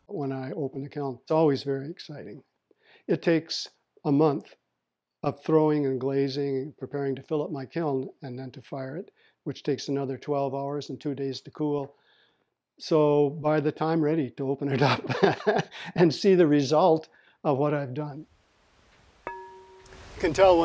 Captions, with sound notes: When I open a kiln, it's always very exciting. It takes a month of throwing and glazing, and preparing to fill up my kiln, and then to fire it, which takes another 12 hours and two days to cool. So by the time, I'm ready to open it up (laughs) and see the result of what I've done (pottery rings when tapped)